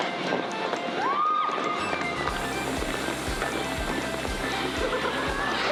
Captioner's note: girls scream and shout